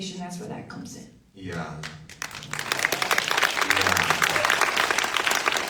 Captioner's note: audience applauds